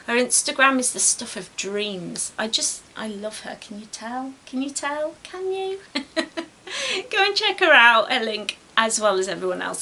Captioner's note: giggles